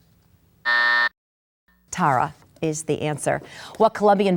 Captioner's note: bell buzzes